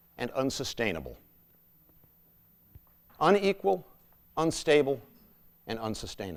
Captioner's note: none